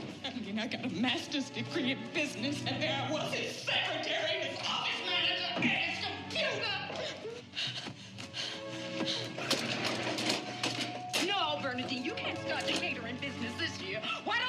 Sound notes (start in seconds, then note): 9.2 crying